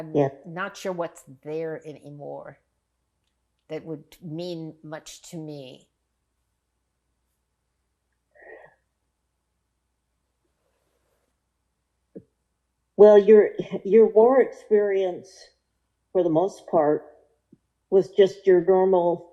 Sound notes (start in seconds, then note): 5.8 pauses 6 seconds